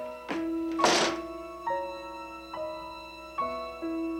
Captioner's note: door slamming